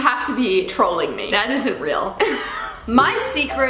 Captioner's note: laughs